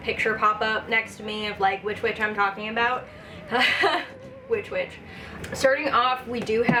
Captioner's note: chuckle